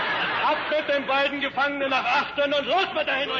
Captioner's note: speaking in German